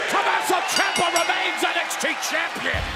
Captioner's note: bell ringing